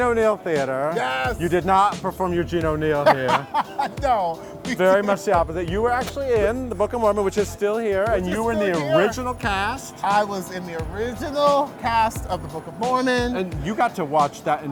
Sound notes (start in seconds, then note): 2.9 laughs